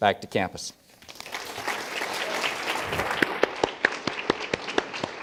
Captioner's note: audience applauds